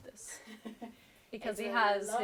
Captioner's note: laughs